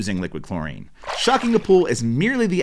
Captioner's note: water splashing